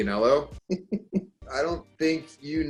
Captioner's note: laughter